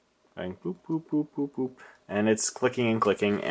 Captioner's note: boop